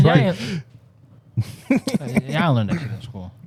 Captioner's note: laughing